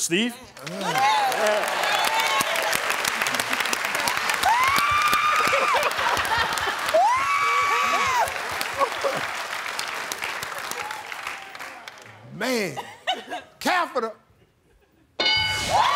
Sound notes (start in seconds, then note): 8.7 laughter